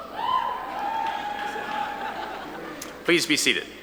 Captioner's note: audience cheering